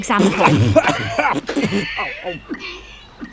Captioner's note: choking, gasps for air